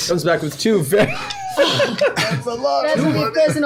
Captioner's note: laughs